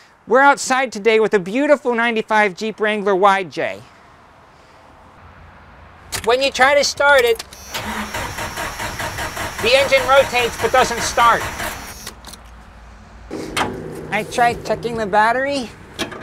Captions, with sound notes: We're outside today with a beautiful 95 Jeep Wrangler YJ. When you try to start it... (Engine trying to start) The engine rotates, but doesn't start. I tried checking the battery,